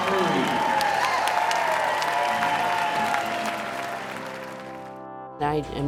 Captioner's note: crowd cheering and applauding